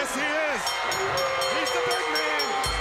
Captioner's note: bell ringing